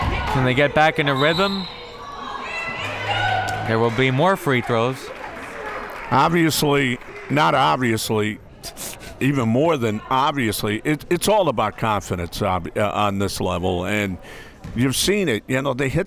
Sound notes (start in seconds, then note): 1.1 whistle tweeting